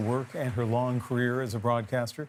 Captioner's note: applause